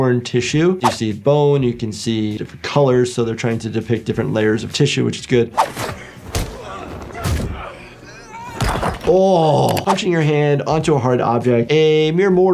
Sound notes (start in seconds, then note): 5.5 air whooshing; 6.4 victim grunting; 7.9 aggressor grunting